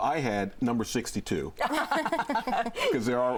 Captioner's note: laughter